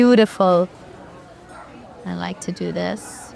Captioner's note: patrons chatter